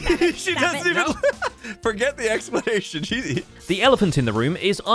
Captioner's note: laughs